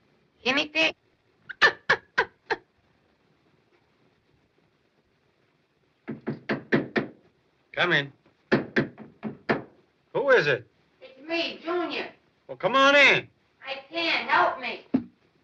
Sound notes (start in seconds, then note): 1.5 laughs; 6.0 knocking at door; 8.4 knocking continues